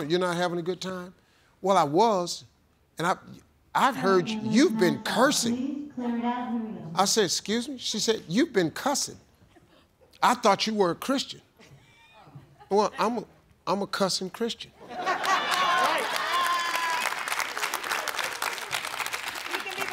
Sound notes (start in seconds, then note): 5.8 overhead announcement; 14.9 audience laughing and applauding